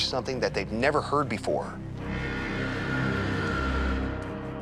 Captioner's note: buzzing